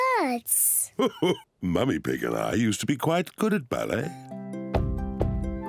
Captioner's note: laughs